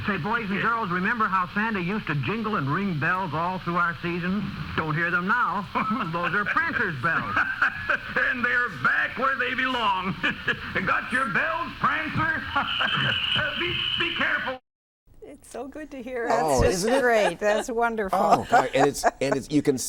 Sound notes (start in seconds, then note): 8.9 Santa laughs; 12.8 laughs; 16.4 laughs